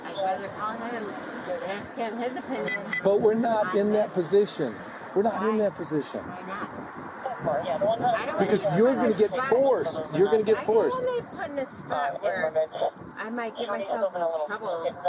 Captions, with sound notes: I'd rather call him, and ask him his opinion But we're not in that position We're not in that position Why not? 10-4 (Radio chatter) Because you're gonna get forced, you're gonna get forced I don't want to get put in a spot where, I might get myself in trouble